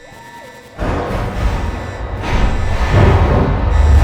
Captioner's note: loud metallic pounding